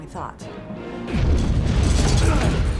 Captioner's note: explosion